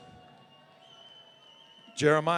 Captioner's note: audience cheering